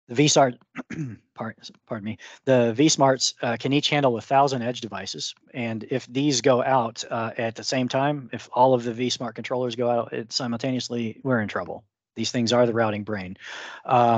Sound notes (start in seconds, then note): 0.7 clears his throat